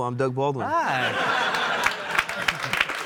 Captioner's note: audience laughs